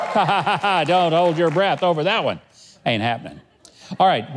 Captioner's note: laughs